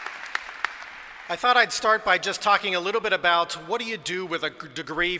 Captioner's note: applause